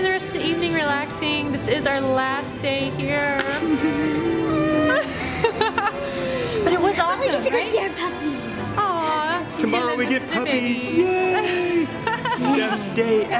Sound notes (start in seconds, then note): 3.5 laughs; 3.6 crying noises in unison